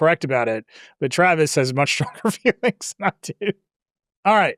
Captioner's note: laughs